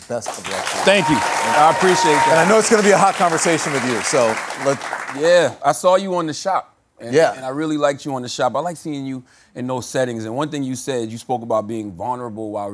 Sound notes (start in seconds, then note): 2.1 audience applauding; 2.1 audience cheering